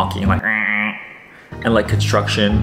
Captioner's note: honking noise